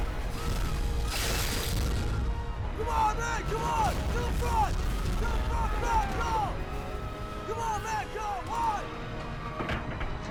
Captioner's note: people screaming